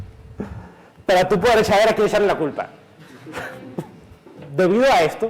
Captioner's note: giggle